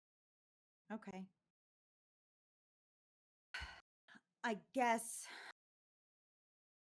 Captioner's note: sighs